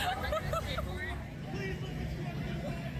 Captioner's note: laughter